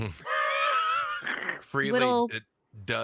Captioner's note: laughs